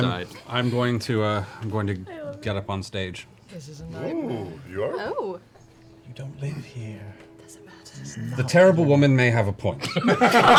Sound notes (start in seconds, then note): 0.0 harrumphs; 3.4 whispers